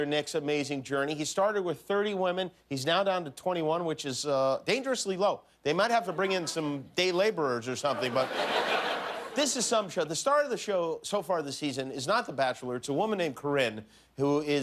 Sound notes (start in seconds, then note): 3.0 laughter